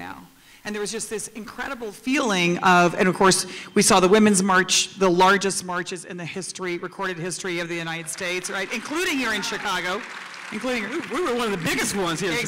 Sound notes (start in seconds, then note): 7.9 applause